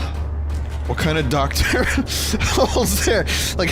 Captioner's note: laughs